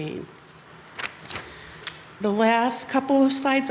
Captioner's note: paper rustles